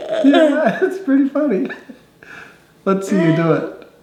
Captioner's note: laughing